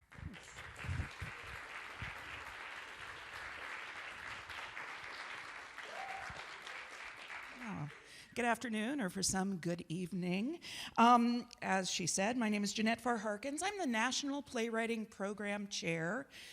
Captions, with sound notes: [audience applauds] Oh, good afternoon or for some good evening. As she said, my name is Jeanette Farr-Harkins, I'm the National Playwriting Program Chair,